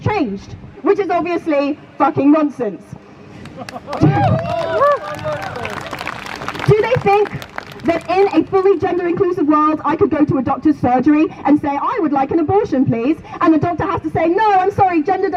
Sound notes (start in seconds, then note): 3.4 crowd Cheers